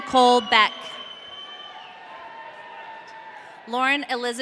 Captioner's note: audience cheering